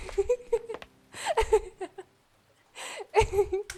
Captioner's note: giggling